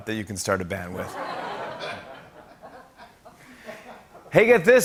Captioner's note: laughter